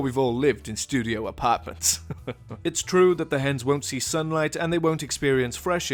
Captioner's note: laughs